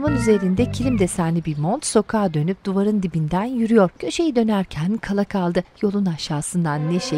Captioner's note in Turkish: Kuş sesleri